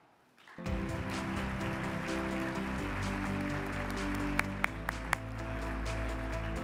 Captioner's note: audience applauding; upbeat music